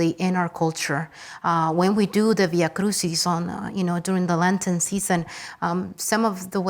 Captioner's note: speaks Spanish